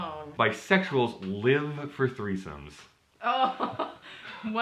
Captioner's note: chuckles